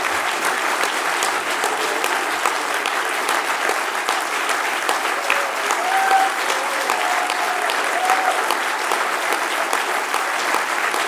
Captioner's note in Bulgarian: още аплодисменти